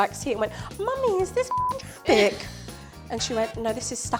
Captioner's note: beep